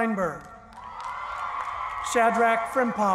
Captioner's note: cheering